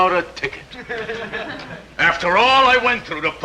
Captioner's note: audience snickering